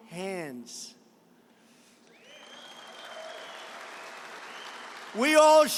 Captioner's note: applause